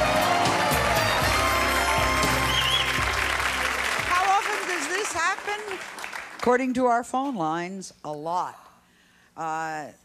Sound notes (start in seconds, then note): 1.8 clapping